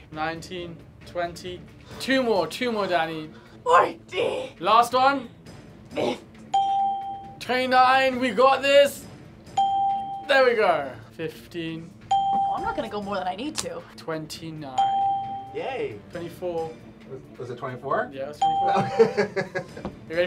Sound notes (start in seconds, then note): 6.5 bell rings; 9.5 bell rings; 14.8 bell rings; 18.7 laughs